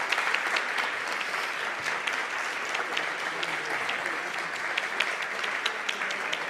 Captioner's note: applause